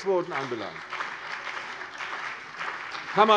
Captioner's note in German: Beifall CDU und BÜNDNIS 90/DIE GRÜNEN